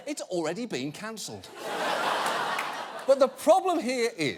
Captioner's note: audience laughing